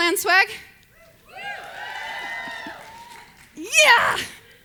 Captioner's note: audience cheers